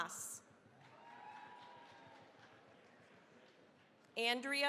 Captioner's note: cheering, applause